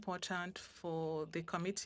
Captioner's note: speaking French